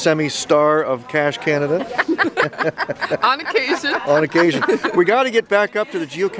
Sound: laughter

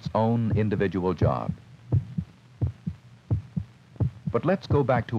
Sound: heart beating sounds

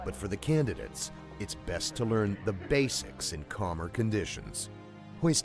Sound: voiceover

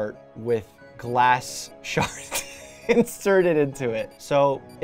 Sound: chuckles

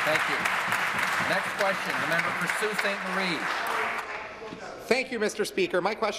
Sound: applause

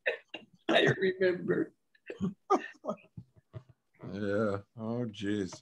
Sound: laughs

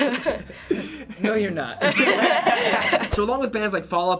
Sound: chuckles; laughter

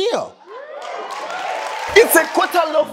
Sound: audience cheering

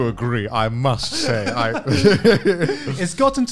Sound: laughing

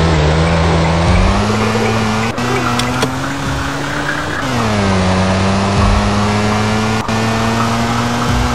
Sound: car noises

